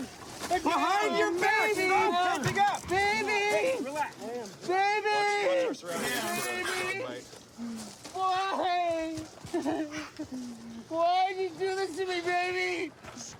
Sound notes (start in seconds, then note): 9.5 sobs